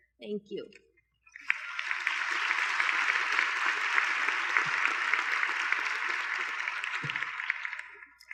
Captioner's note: applause